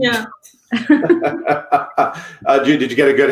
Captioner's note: laughing